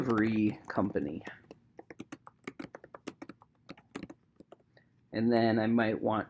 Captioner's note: keyboard clicking